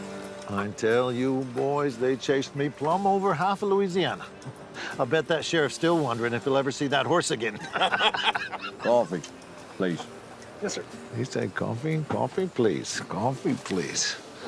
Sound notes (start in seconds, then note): 7.6 laugh